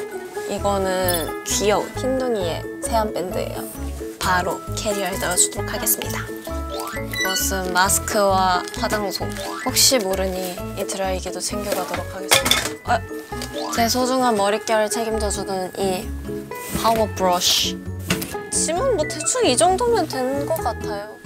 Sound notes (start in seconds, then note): 12.9 thud; 16.3 brush, brush